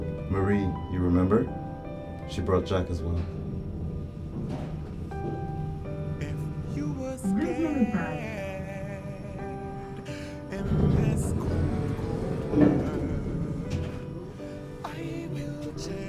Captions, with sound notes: Marie you remember she brought jack as well. [Elevator doors opening]